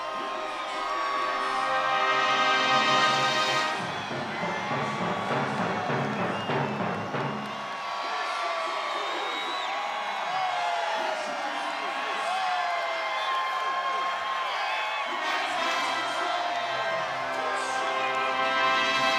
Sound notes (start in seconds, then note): 4.5 audience cheering; 16.7 dramatic music continues